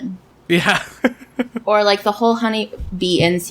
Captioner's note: laughs